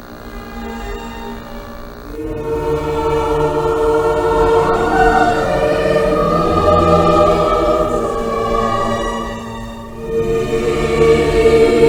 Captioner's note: Static; somber Music